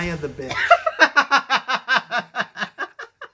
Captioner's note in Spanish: risas